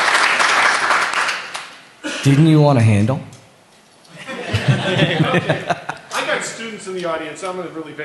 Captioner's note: applause